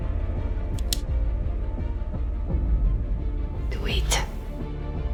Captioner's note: device clicks